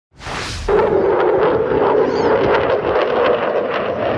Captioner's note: engine revving